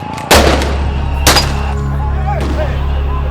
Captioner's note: gunshots; crowd yelling